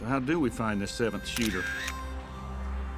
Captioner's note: camera click sound